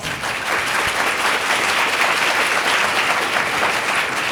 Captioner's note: people applauding